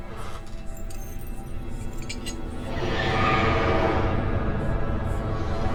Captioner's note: eerie whispering; dramatic music